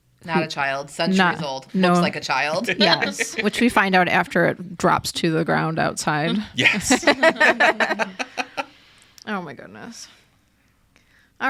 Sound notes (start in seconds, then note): 2.5 laughing; 6.5 group laughs